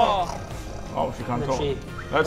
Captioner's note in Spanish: Gruñido de lobo